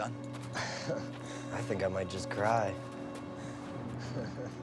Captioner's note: chuckles